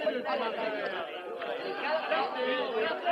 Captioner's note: chattering